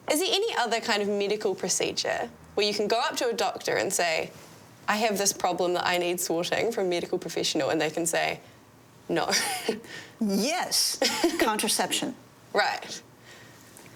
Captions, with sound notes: Is there any other kind of medical procedure, where you can go up to a doctor and say, "I have this problem that I need sorting "from a medical professional," and they can say, "No." (laughs) Yes. Contraception. Right.